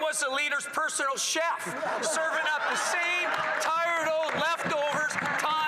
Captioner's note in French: voix de l'interprète